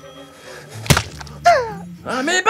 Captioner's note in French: scintillement; Craquement